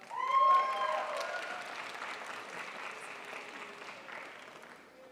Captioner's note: crowd applauds